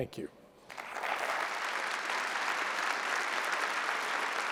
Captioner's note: applause